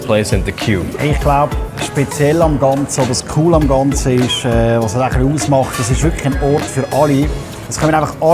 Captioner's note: speaking in Swiss German